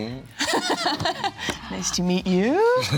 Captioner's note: laughs